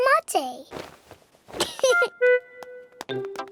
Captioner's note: giggles